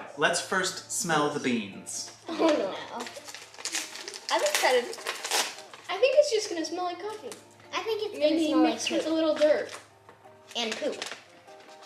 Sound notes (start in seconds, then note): 2.7 groaning